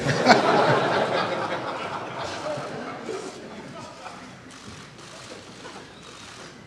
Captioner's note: laughter